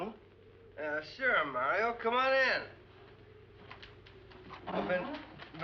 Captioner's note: slurring